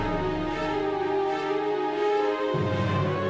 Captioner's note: bell